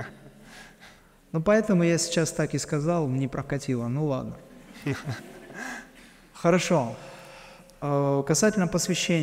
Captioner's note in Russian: смех